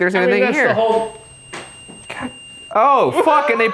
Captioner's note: REM-Pod beeping